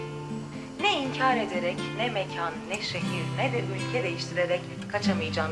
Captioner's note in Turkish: Kadın radyo ses